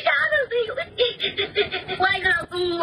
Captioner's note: crying helplessly